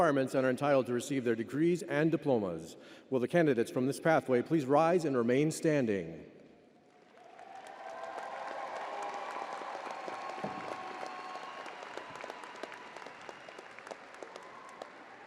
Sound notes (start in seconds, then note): 6.8 crowd applauding